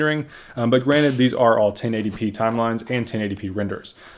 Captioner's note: hand slap